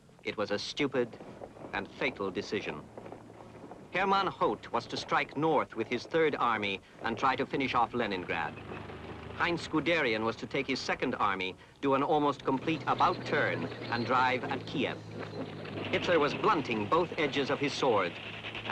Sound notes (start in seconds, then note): none